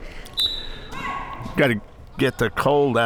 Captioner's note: laughing; whistle tweeting